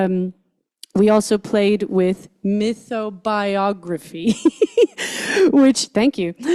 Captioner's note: laughs